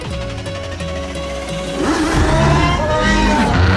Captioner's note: car engine roars